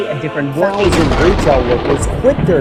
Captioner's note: thunder crashes